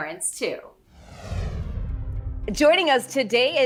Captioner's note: title swooshes